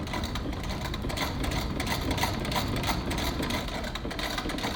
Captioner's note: sewing machine whirring